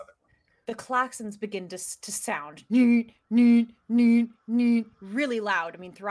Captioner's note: imitates sirens